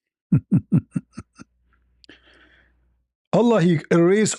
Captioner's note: ketawa